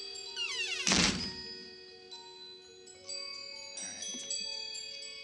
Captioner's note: door slams